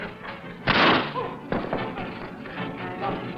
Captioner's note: dramatic music; grunting; Eliot groans; gunshot